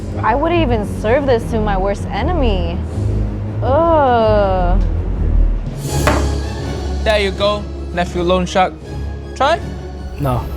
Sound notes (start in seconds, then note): 4.8 dramatic music; 5.9 bowl thudding